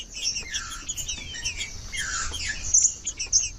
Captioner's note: trinca ferro cantando